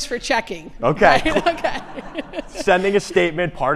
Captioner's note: laughs